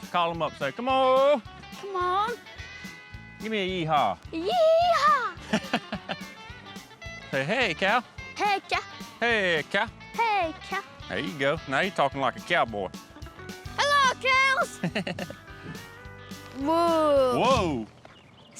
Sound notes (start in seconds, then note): 5.4 chuckles; 13.8 shouts